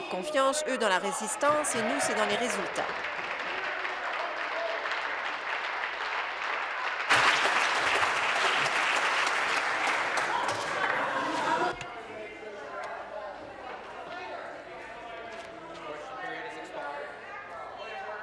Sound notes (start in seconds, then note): 4.2 applause